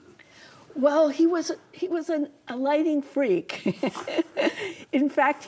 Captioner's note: laughs